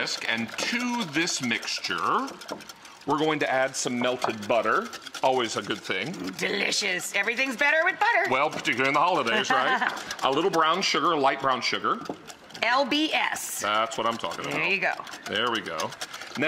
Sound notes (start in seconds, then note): 9.3 laughs